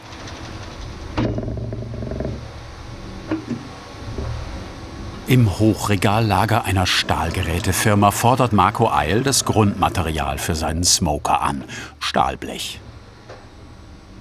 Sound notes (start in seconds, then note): 0.0 quiet rattling